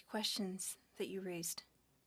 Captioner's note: speaking French